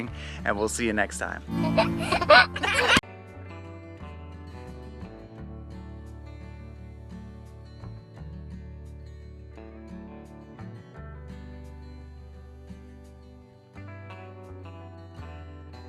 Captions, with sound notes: And we'll see you next time. (baby laughing) (lighthearted music)